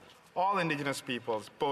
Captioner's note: speaking French